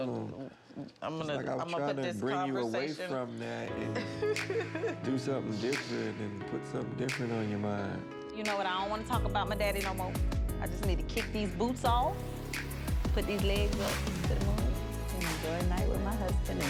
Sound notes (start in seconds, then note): 3.8 laughing